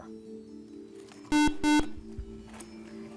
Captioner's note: buzzer